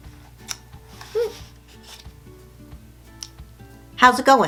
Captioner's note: paper rustling